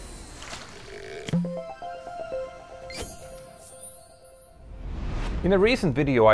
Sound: playful chime

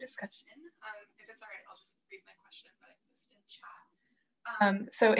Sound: faintly speaking

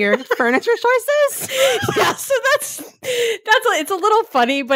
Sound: both laughing

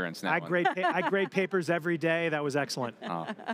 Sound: laughs

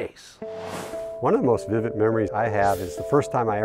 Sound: sound Effects

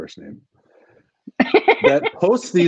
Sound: laughs

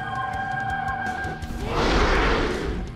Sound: roaring

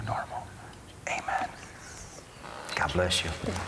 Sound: whispering

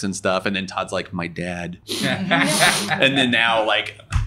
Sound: sniffs

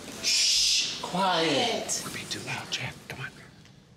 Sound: whispering

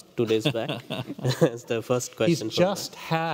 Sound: laughing

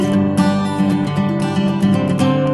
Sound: none

